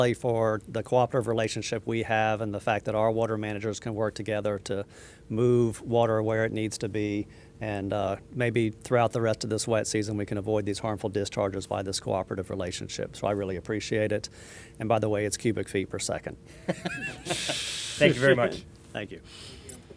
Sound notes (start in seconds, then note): 16.6 both laughing